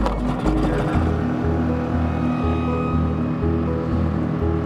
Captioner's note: boat engine starts